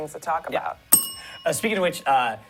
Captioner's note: bell rings